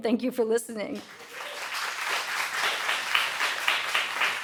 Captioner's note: audience cheering